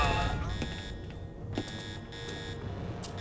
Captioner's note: alarm blaring